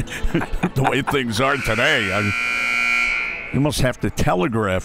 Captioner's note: laughs; clock buzzes